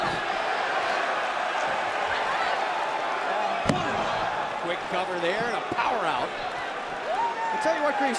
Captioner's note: cheers and applause